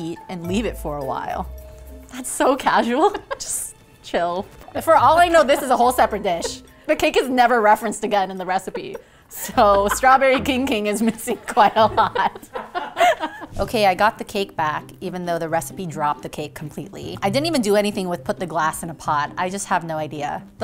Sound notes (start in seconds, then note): 12.3 laughing